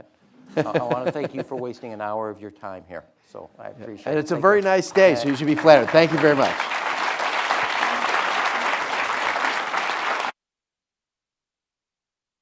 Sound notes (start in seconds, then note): 0.4 audience laughing; 4.1 audience applauding